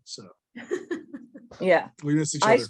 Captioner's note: giggling